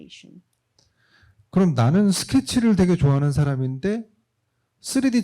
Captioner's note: speaking korean